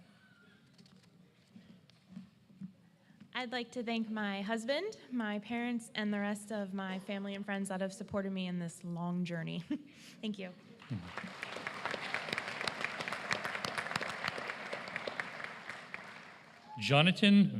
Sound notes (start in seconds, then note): 8.0 applause